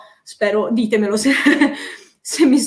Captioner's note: laughs